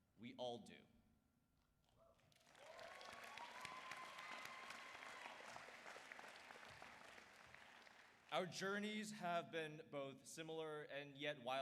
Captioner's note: applause